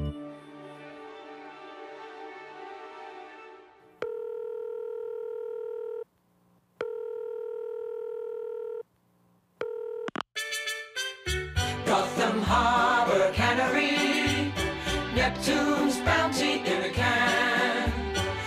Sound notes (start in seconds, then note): 4.0 line trilling; 10.0 upbeat music